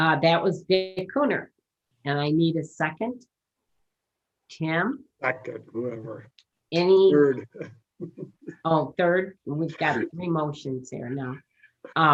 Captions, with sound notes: - That was Dick Kunnert. And I need a second. Tim. - Second whoever. - Any. - Third (laughing) - Oh, third, we've got three motions there now.